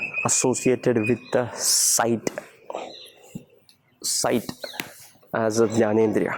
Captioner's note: foreign language